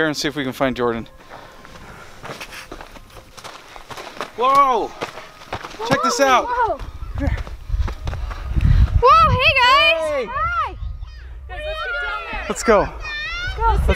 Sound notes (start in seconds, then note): 5.8 children exclaim; 9.8 people shout greetings